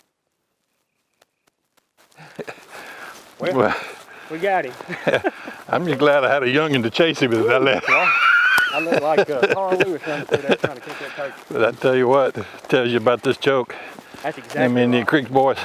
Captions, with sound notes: - Wait - we got it. - I'm just glad I had a young'un to chase it with. (laughter) (laughing and chattering) I tell you what, let me tell you about this joke. Them Indian Creeks bored